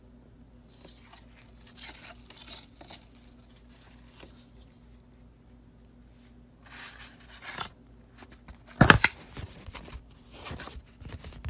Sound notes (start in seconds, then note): 0.7 twine shuffling; 8.8 thunk